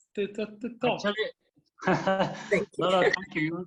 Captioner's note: chuckling